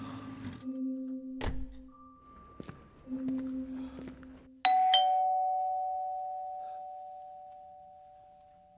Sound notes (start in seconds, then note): 1.4 car door closes; 2.4 footsteps; 4.6 doorbell ding dong